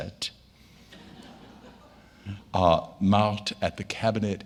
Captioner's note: audience laughing